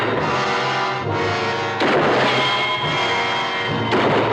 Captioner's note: guns firing